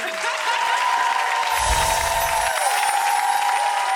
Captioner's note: audience applauding